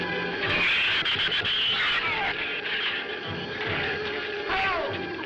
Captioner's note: shrews chattering